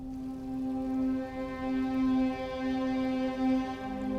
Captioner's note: river babbling